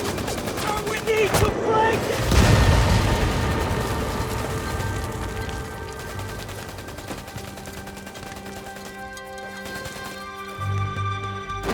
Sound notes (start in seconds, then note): 2.2 artillery shell explodes; 8.0 dramatic music